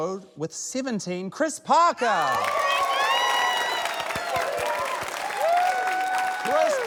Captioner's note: cheering, applause